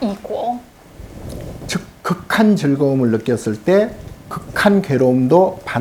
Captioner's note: speaking Korean